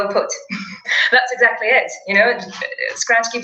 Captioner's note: laugh